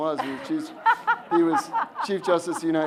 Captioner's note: audience laughs